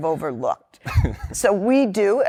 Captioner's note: laughter